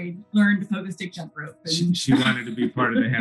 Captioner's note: laughs